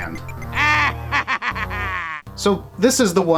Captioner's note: Wario laugh